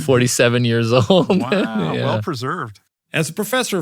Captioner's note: laugh